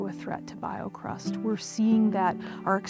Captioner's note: none